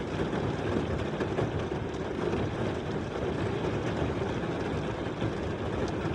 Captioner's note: rain tapping on roof